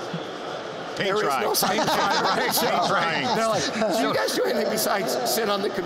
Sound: laughter

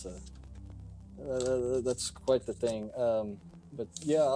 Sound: stammering

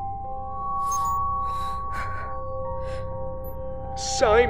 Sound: breathes heavily

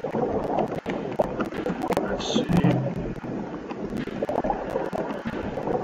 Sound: sound of submarine

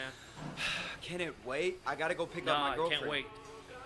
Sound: sighs

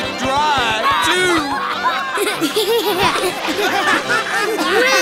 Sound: laughing

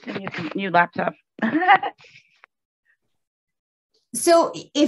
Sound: laughs

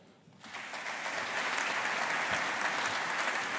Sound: audience applauding

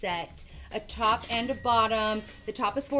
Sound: till rings

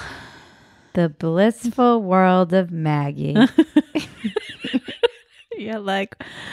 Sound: laughing

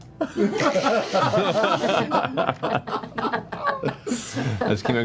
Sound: laughter

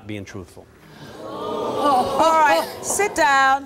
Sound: audience gasps

